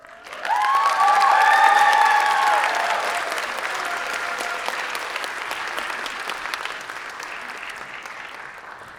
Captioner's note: applause